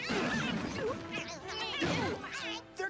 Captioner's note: squeaking